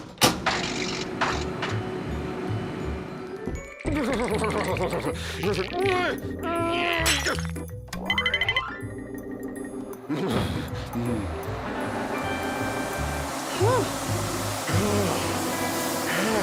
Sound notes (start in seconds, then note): 1.1 heater rumbling; 5.4 straining; 7.1 ice breaks; 10.1 shudders; 10.8 heater whirring